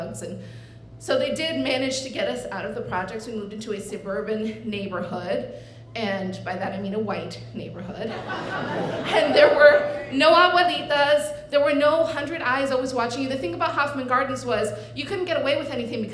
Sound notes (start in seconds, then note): 8.1 audience laughing